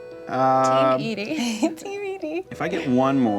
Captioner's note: giggles